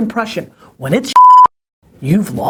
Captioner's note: beep